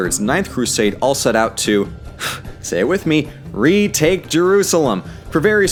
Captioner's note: sigh